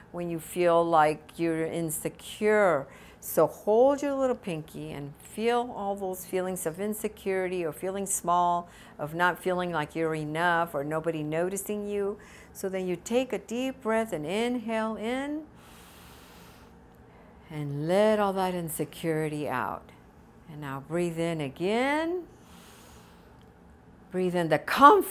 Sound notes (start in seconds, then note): 15.6 deep breathing